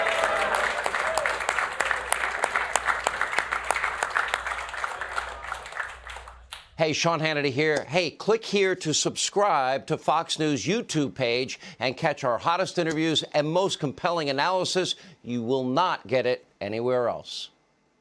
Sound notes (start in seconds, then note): 2.9 applause; 3.0 cheering